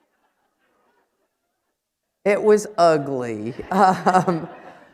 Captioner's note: laughter